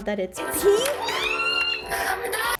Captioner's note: screaming